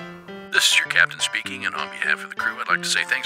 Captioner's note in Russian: Говорит Капитан